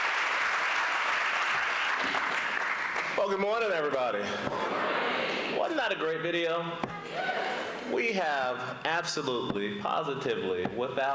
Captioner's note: applause